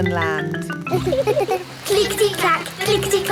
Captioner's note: laughing